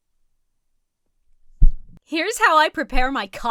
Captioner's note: head thuds against mic